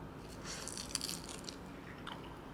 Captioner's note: crunch crunch